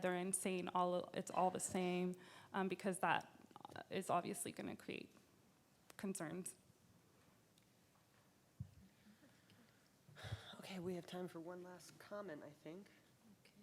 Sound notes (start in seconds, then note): none